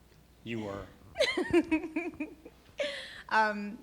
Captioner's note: laughing